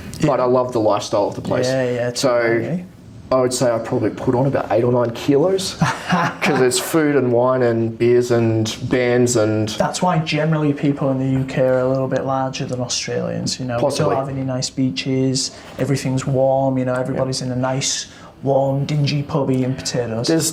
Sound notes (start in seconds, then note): 5.7 laughing